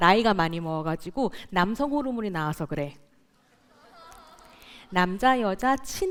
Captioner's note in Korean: 웃음